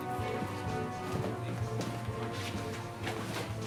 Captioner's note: footstep